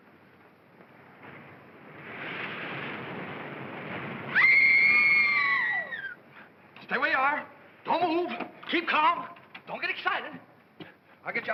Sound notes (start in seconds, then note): 2.0 water churning; 4.3 women scream